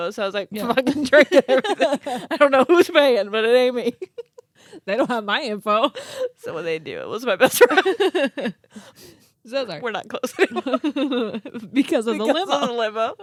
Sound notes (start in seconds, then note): 7.4 girls laughing